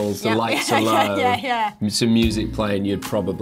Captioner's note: laughs